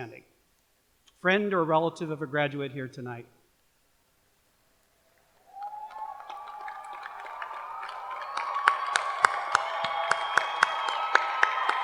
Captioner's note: cheers and applause